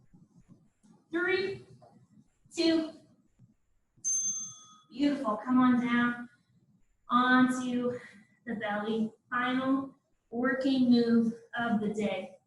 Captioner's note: ding